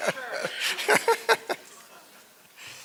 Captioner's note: laughter